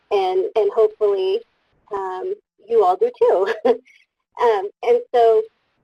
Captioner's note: laughs